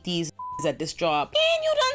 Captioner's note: beep